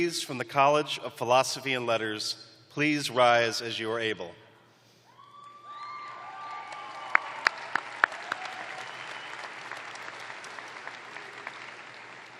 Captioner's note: cheering